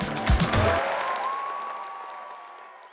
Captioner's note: cheers